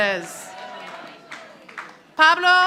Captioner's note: audience applauding